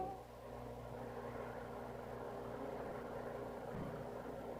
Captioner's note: propellor whirring